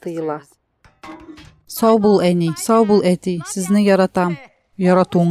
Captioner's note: clang